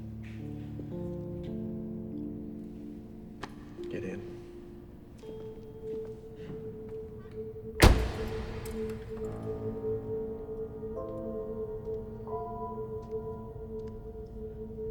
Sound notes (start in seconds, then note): 0.3 gentle music; 7.8 car door thuds; 10.8 suspenseful music